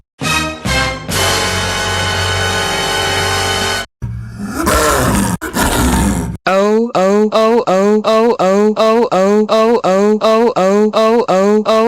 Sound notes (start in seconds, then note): 0.2 dramatic music sting; 4.3 snow leopard roaring